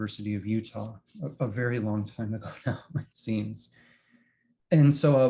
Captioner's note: chuckles